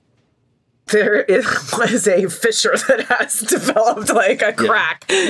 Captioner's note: laughing